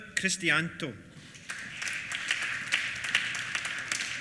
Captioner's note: applause